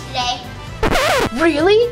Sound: record scratching

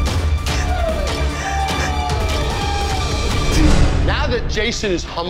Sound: sobbing quietly

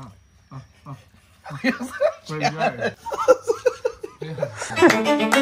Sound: laughter

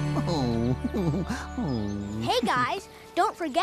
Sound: Barney Chuckles

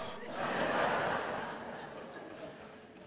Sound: laughter

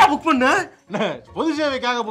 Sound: chuckles

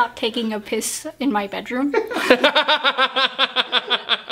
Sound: laughs

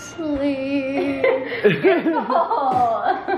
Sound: parents laughing

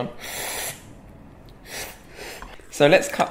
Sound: slurping

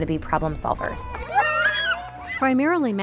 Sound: squeeling

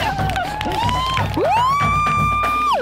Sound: cheers

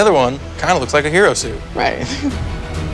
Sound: chuckles; tense energetic music

